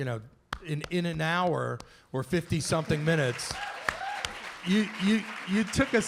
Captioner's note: applause